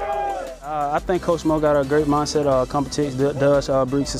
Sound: whistle

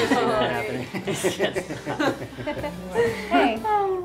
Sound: laughing

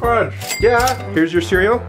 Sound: cash register dings

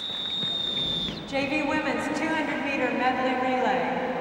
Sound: whistle

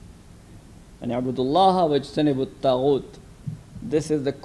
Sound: speaks in a foreign language

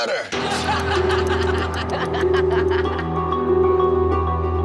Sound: everyone laughing

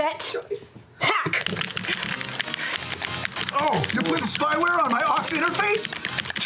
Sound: vigorous keyboard clacking

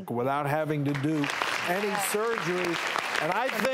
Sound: audience cheering

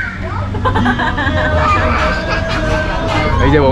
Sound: laughs heartily

